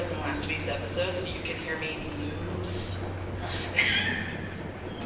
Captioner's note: laughs